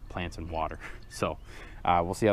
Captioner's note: laughing